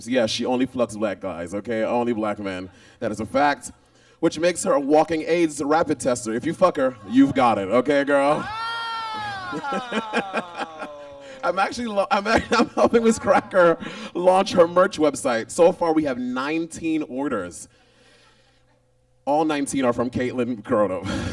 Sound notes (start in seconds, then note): 8.3 exclaims; 10.0 Monet laughs